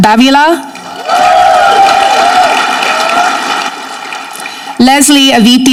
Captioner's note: audience clapping